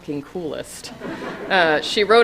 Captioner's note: laughing